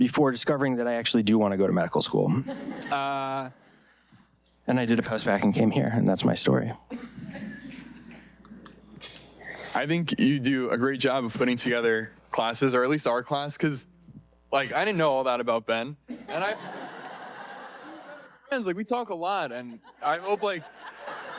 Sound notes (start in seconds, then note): 2.4 audience laughing; 16.1 audience laughing